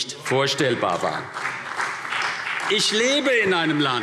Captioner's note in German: Beifall CDU und BÜNDNIS 90/DIE GRÜNEN